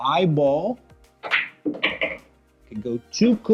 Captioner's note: ball smacks